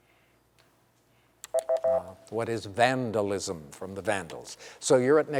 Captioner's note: beep